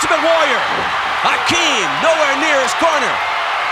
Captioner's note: audience cheering